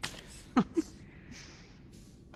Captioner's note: chuckles